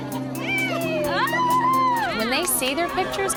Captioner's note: laid-back music; cheering